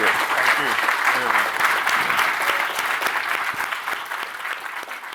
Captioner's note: audience applauding